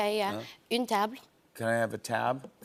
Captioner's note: speaking French